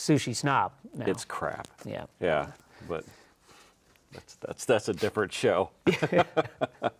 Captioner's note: laughs